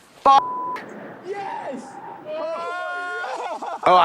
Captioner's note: beep; Team Charlie screaming